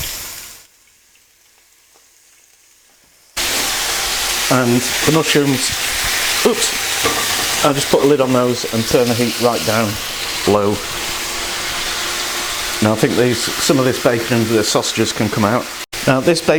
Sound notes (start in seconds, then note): 3.3 sizzling